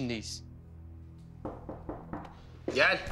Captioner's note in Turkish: Kapı çalıyor